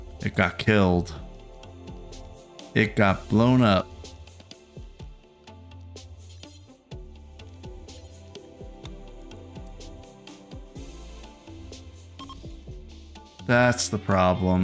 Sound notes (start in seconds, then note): 5.3 soft music; 12.2 beeping